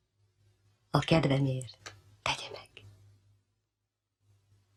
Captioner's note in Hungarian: suttogva